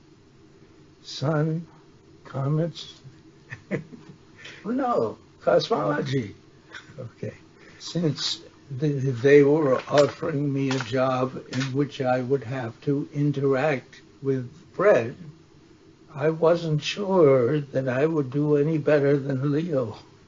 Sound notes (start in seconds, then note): 16.9 laughs